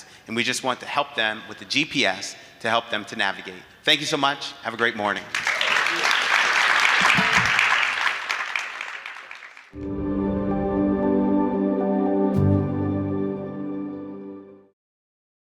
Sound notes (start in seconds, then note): 5.3 audience applauding; 9.8 gentle music